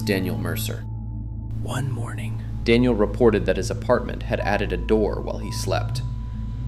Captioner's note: whispers